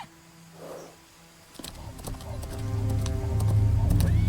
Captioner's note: horses whinnying